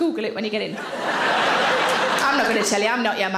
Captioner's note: audience laughing